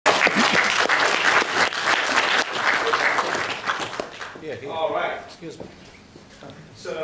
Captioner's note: applause